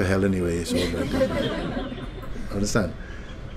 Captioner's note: laughter